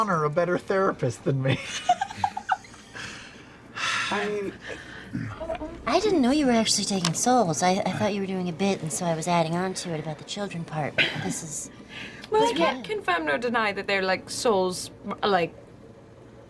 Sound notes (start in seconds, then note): 1.6 laughs; 3.7 sighs